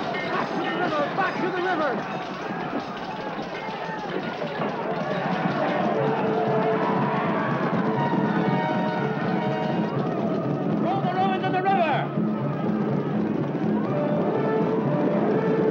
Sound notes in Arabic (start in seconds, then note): 0.0 اصوات المعركة; 3.2 اصوات المعركة; 6.1 ضربات حوافر; 7.1 موسيقى درامية; 12.0 ضربات حوافر; 12.1 موسيقى درامية